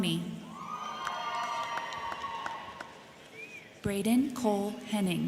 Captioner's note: crowd cheering; crowd clapping